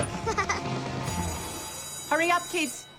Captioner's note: school bell rings